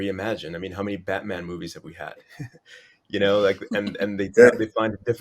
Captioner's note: laughs